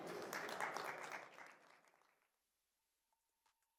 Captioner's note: applause